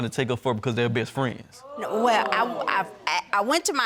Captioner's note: audience exclaims